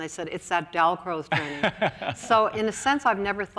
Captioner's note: laughs